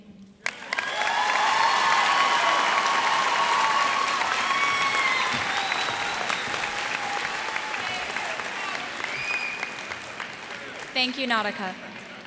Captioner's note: cheers and applause